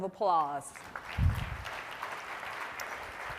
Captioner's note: applause